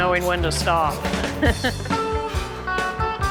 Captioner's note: laughs